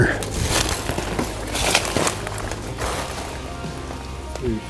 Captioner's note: sound of walking; soft voices